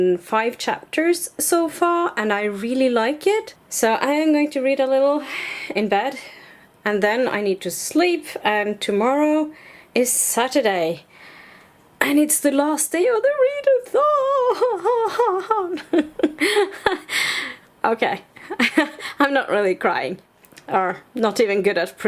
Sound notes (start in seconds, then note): 14.0 pretending to cry; 14.4 laughs